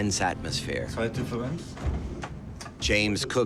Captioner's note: speaking German